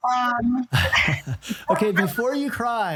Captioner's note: chuckling